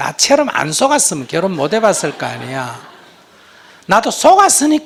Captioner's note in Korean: 청중 웃음